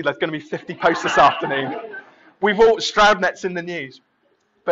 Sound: laughing

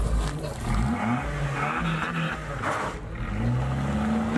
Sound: engine roars

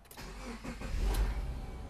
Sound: car starting

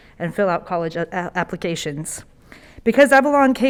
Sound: none

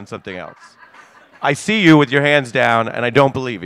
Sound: laughter

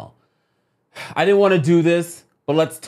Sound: sighing tiredly

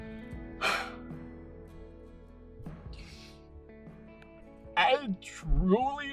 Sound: exhales loudly

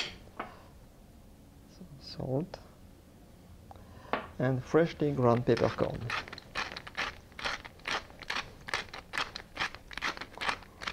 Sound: grinding sounds

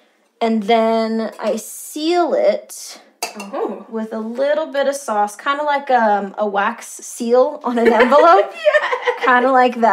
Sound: laughter

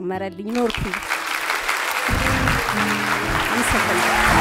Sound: applause; scream and applause

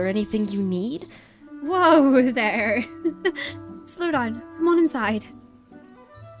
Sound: laughs

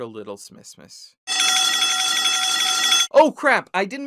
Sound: TF2 alarm bell ringing

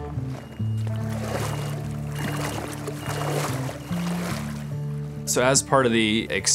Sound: equipment beeping gently

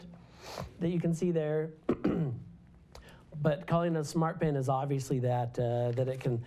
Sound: cough

